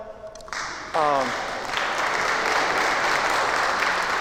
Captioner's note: applause